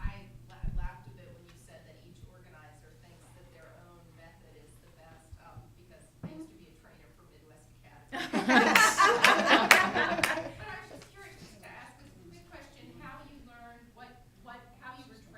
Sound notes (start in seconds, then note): 8.1 laughter